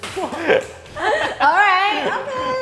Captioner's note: laughing